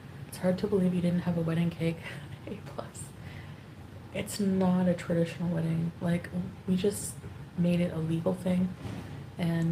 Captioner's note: none